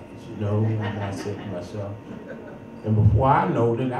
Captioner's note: audience chuckles